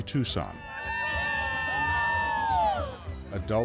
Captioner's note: screaming